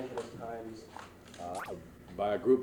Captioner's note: camera noise